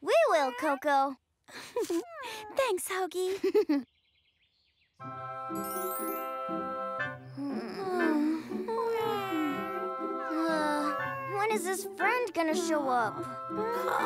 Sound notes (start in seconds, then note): 3.2 chuckles